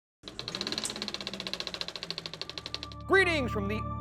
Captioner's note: movie reel clacking